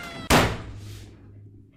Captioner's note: table slam of pure exasperation